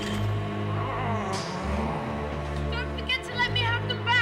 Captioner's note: moans